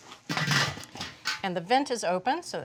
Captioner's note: lid clangs